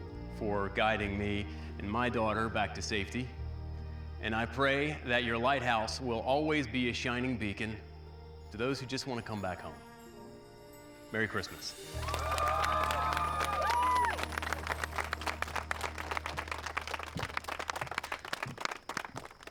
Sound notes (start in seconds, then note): 11.8 cheering, applause